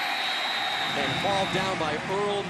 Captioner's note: whistle blows